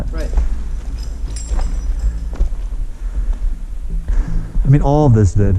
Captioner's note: metallic clanking; breathing hard